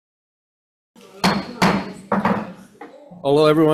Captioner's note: gavel bangs